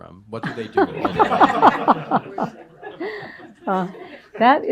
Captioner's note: laughter